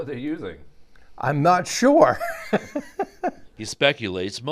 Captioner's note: laughing